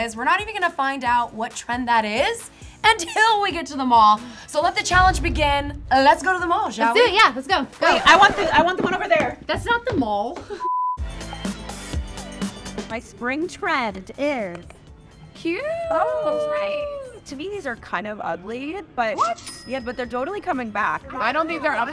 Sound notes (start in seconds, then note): 10.3 chuckles; 10.6 TV beeps; 11.0 bouncy music; 14.4 claps; 19.4 cash register ringing